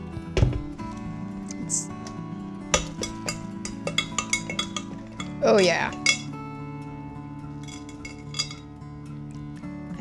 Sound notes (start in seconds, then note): 3.6 implement tapping